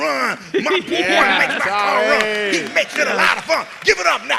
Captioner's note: cheers and applause